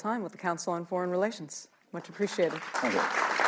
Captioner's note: applause